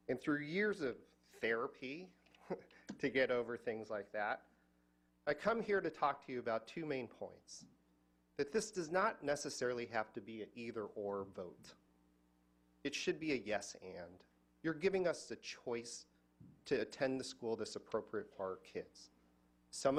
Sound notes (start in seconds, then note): none